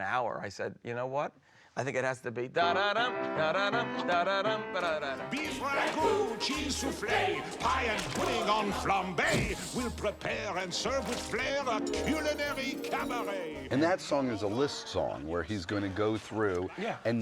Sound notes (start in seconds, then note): 2.4 vocalizing